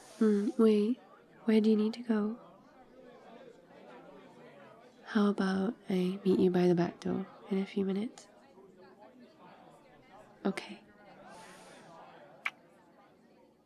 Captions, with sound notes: mm, wait, where do you need to go? how about I meet you by the back door in a few minutes? ok *kiss*